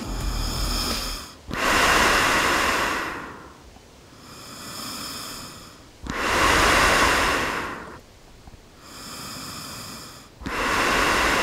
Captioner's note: heavy Breathing into Gas Mask